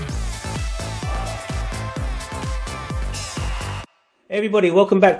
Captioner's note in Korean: 환호성